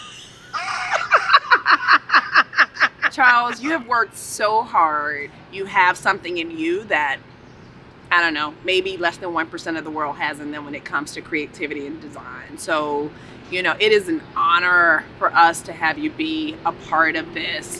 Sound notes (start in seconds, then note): 0.7 screams